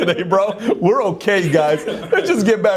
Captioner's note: laughing